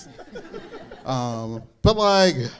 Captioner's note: audience laughing